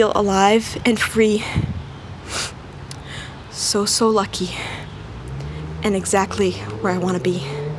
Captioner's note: sniffing